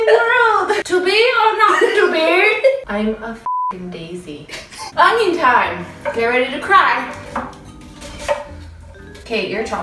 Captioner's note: laughs